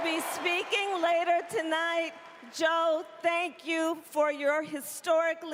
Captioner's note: cheering